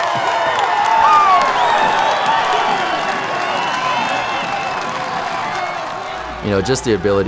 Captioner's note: cheering